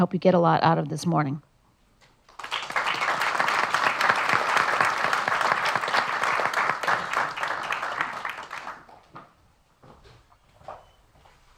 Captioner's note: applause